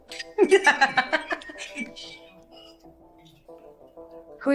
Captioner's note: woman laughing